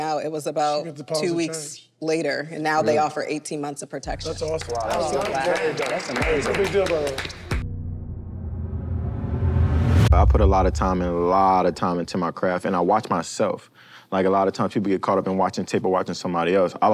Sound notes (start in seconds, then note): 4.2 group applauds; 6.2 dramatic music